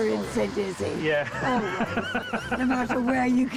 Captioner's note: laughs